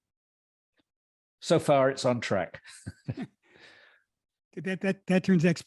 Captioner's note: laughs